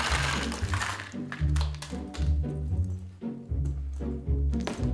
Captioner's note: objects clattering